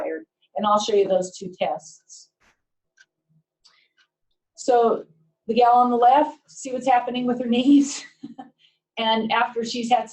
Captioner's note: laughter